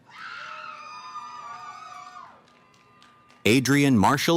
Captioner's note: cheering